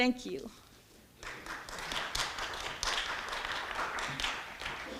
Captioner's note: audience clapping